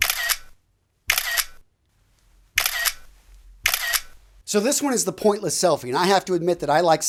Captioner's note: camera clicking sound